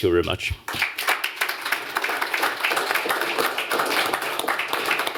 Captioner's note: applause